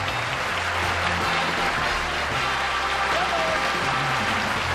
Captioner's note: applause